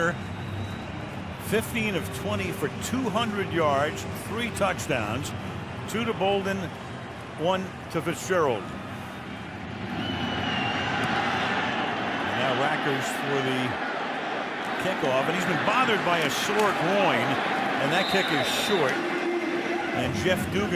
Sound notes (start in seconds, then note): 10.4 crowd cheering